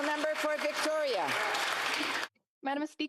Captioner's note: some Applause